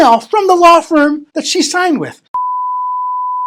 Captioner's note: beep